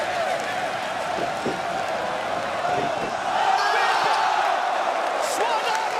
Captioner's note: crowd chatter; crowd cheering